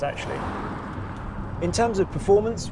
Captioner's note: car roaring